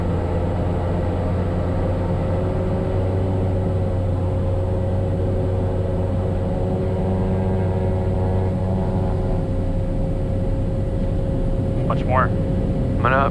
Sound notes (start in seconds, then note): 7.0 plane engine roaring